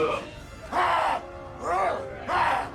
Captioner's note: all grunting